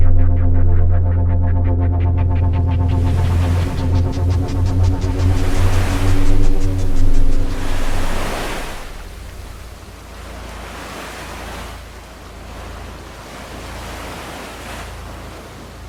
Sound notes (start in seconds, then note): 0.6 fire crackling; 4.9 waves crashing